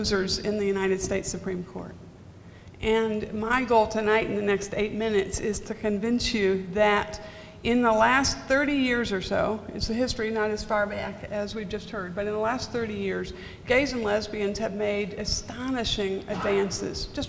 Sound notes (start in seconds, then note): none